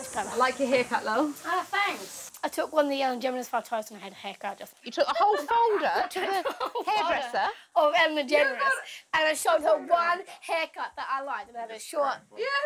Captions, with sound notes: - I like your haircut Lil' - Oh thanks I took one of the Ellen Degeneres photos to the hairdresser. You took the whole folder?! To the hairdresser?! [laughing] I showed her the one haircut that I liked, the short…